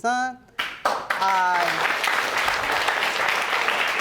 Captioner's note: audience applauding